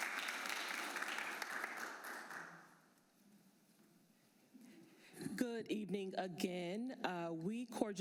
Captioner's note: applause